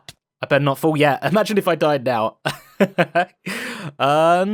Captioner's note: laughs